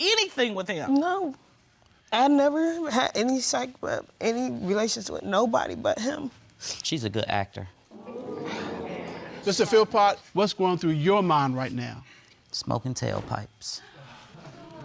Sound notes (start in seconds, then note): 7.9 crowd exclaiming